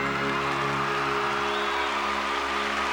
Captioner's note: applause